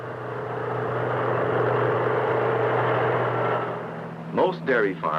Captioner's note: whirring